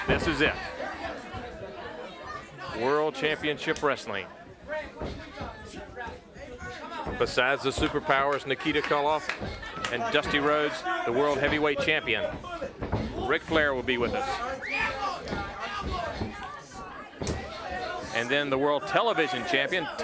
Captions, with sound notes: This is it, World Championship Wrestling. Besides The Super Powers, Nikita Koloff, and Dusty Rhodes, the World Heavyweight Champion Ric Flair will be with us. (footsteps plodding) And then the World Television Champion,